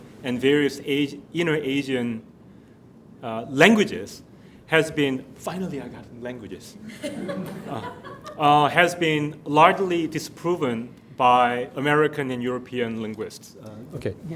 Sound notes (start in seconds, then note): 6.8 audience laughing